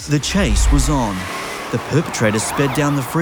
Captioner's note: engine revving; alarms blaring; voiceover